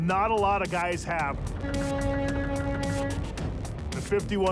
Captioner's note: horn honks